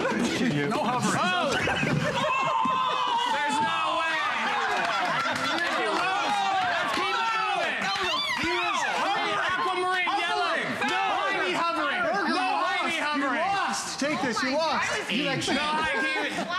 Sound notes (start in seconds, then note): 4.4 applause